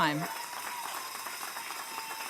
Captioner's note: applause